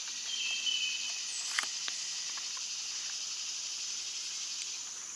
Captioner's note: bugs and birds chirping